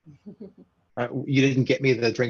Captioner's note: participant chuckling